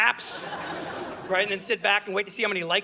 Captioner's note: audience laughing